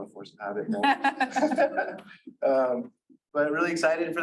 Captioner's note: laughing